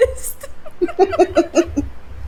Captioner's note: petty laughter